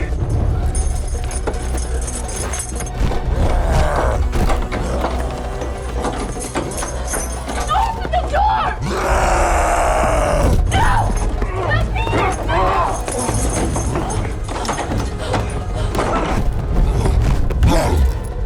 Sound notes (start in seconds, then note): 0.5 keys jingling; 8.6 roars; 12.3 suspenseful music playing